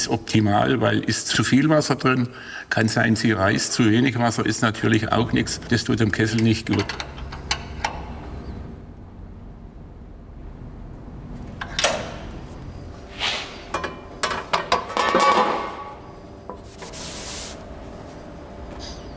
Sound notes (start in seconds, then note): 13.1 metallic sounds